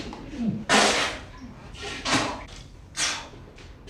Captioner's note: retching